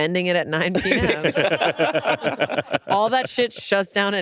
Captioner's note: all laughing